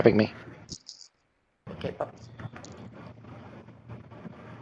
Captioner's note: speaker garbling